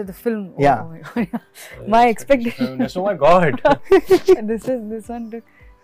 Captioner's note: laughs